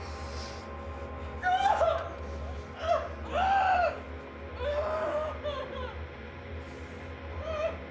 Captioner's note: Ben sobs; tense music; Claire screaming